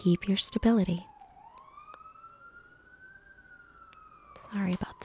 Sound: sirens wailing

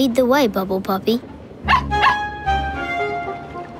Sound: barking

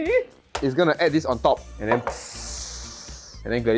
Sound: pssst pssst

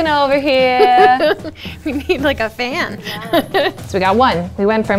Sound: laughs

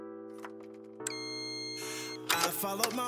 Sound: door beeps

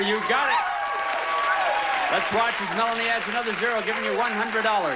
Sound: audience applauding

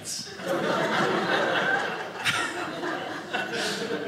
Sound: audience laughing

